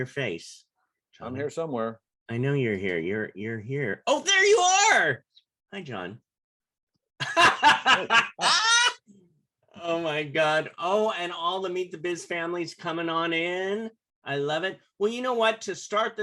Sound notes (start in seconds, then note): 7.1 laughter